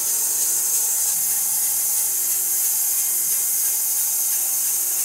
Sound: saw whirring

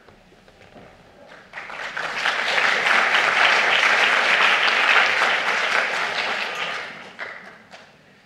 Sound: applause

